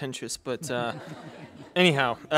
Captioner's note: laughter